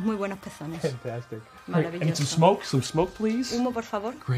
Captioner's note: speaks in english